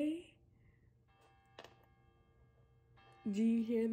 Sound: bells ringing

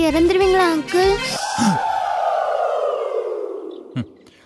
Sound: gasping

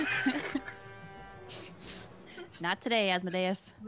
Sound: laughing

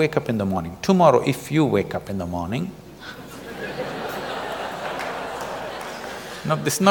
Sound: laughter

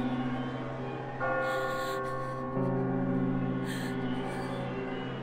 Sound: heavy Breathing

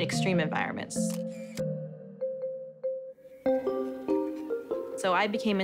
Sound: camera shutter clicking

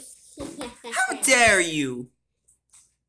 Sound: continues Laughing

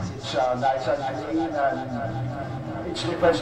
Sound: audio Sample fades out with Echo

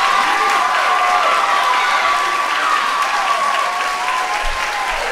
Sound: audience cheering; audience yelling; audience cheering

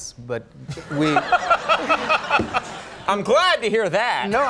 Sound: Conan laughs

